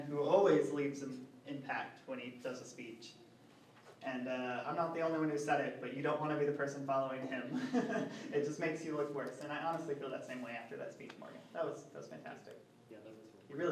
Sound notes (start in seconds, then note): 7.3 laughs